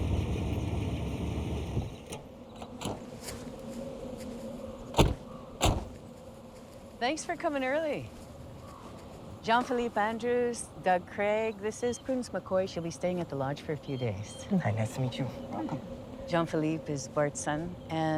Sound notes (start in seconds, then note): 2.2 car door latch clicks; 5.6 car door thuds